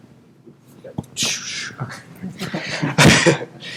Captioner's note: chuckle